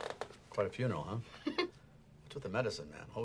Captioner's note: laughs